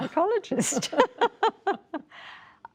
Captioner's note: laughter